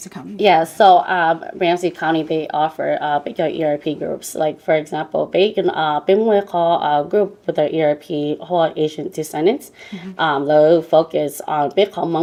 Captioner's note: Speaking in Hmong